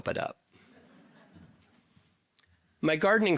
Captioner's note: audience laughing